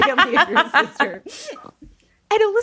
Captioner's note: laughing